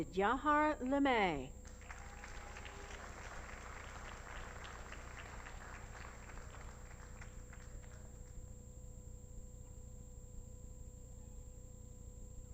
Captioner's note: applause